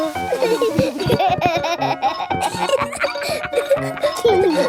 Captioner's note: giggling